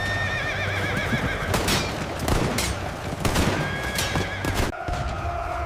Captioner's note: gunshots